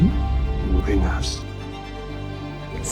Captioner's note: voiceover